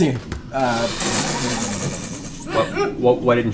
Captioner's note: laughter